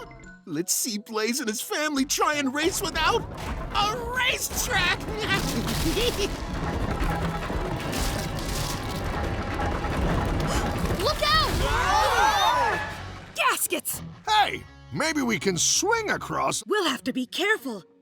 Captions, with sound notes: Let's see Blaze and his family try and race without a racetrack. [laughing nastily] [wooden planks crunching] - Look out! - Whoa! - Gaskets! - Hey. Maybe we can swing across. We'll have to be careful.